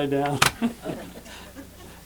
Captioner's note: laughter